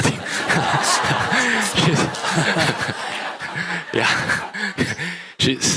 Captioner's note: laughter